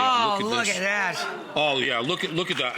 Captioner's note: audience gasps